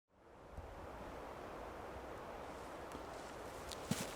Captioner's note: wind blowing